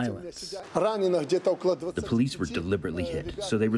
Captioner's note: through translator